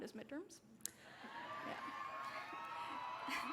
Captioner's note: cheering